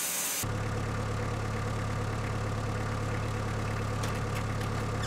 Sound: engine running

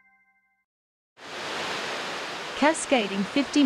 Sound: water falls

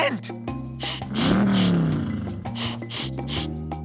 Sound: sniffing

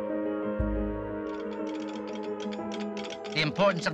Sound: telegraph clicking; air raid sirens wailing

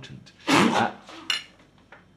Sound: coughs powder

